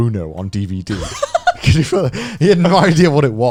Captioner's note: chuckles